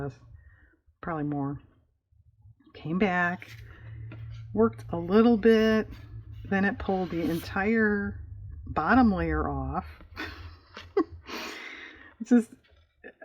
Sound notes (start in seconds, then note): 10.2 laughs